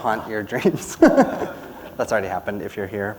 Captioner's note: laughter